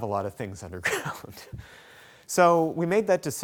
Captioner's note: laughs